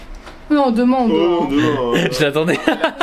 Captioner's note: imitating Anne